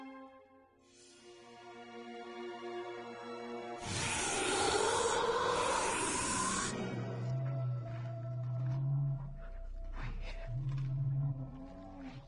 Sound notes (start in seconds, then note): 3.8 threatening hissing; 7.2 monster chewing and growling; 7.2 tense music